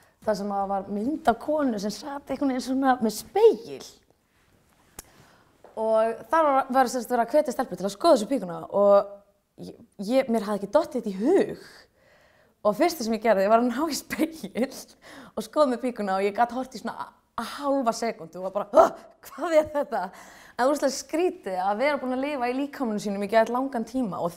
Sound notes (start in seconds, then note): 20.2 startles